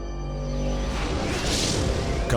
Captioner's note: light mysterious music; graphics whooshing